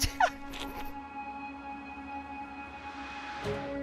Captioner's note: laughs